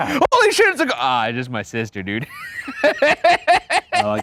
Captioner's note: laughs